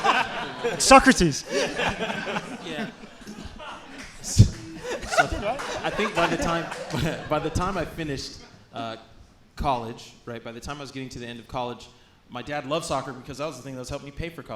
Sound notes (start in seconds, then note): 1.8 hosts laughing